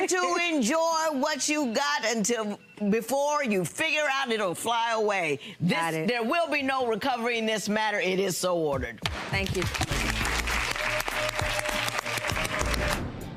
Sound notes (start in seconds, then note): 9.4 clapping